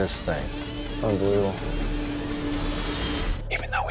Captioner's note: buzzing; whispering